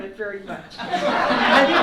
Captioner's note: laughter